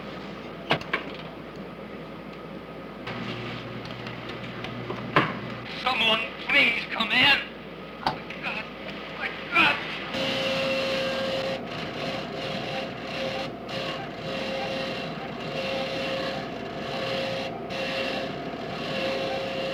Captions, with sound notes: Someone, please come in. Oh, god. My god. [buzzing]